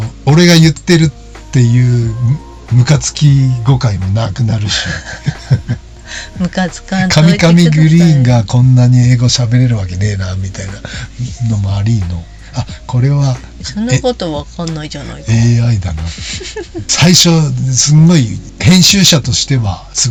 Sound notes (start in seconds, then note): 4.7 laughs